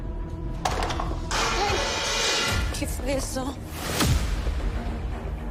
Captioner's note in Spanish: Estruendo